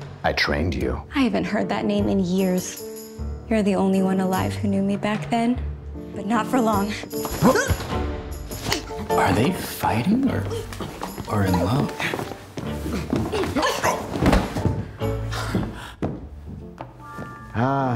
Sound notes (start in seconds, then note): 13.1 fighting and struggling